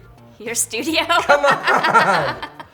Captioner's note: laughs